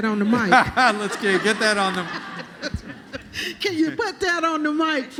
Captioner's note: laughter